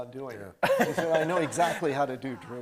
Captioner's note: everybody laughing